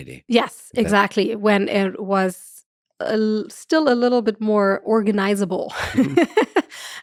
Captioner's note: chuckles